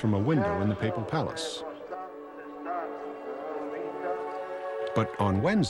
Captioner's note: Pope speaks foreign language